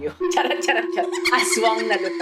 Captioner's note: laughs